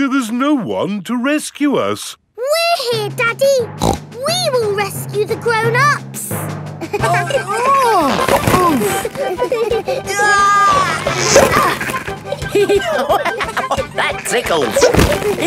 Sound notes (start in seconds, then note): 3.8 snorts; 6.8 giggling; 7.1 grunting; 10.0 giggling; 12.7 laughing